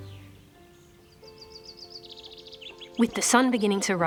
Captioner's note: birds chitter